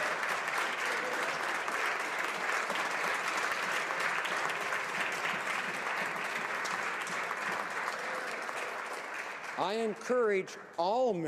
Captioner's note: applause